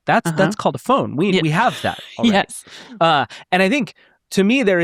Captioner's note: laughing